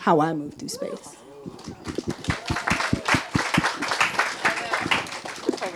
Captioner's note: audience applauding and cheering